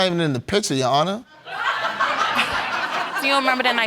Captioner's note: audience laughing